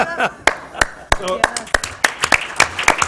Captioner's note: applause